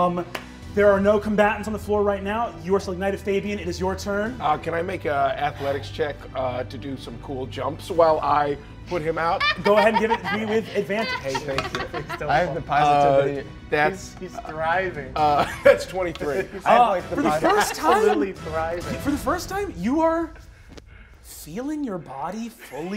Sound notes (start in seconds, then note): 12.3 laughing